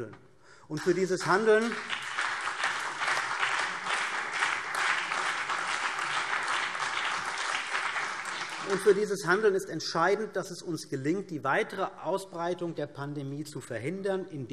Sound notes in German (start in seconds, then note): 0.7 Beifall CDU und BÜNDNIS 90/DIE GRÜNEN